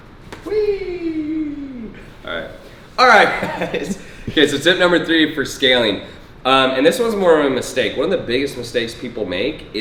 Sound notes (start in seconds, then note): 3.0 laughing